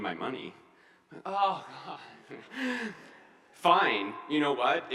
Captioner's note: groans